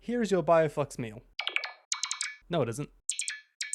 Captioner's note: robot beeps; yet more robot beeps